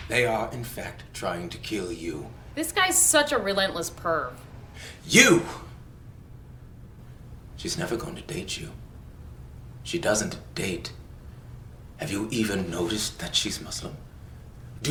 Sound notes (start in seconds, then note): none